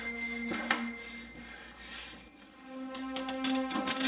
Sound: ominous music playing; breathing heavily; ominous music playing

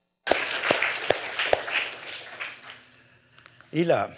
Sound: applause

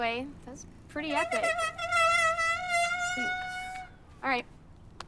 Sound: brakes squeeking

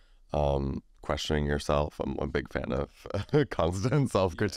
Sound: laughs

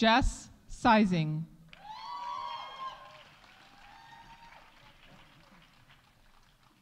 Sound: audience cheering; audience applauding

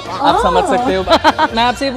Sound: laughing

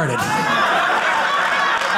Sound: audience laughing

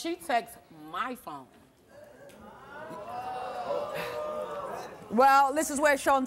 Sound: audience gasping

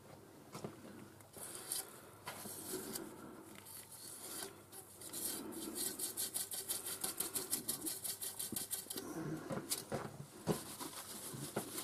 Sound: wiping noises

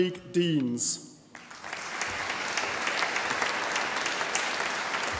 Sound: audience applauding

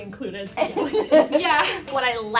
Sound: laughter

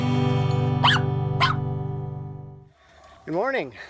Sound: dog barks

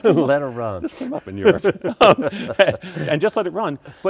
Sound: laughs

